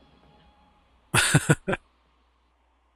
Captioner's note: chuckling